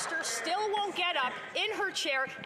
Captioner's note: some Applause